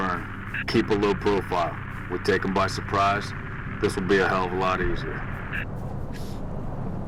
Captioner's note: radio